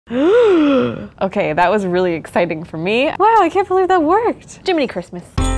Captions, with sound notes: - (gasps) Okay, that was really exciting for me. Wow, I can't believe that worked. Jiminy Christmas!